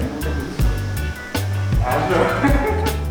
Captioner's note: laughs